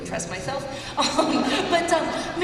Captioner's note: laughter